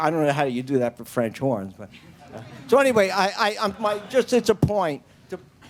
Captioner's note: laughter